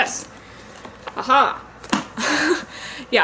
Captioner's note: laughs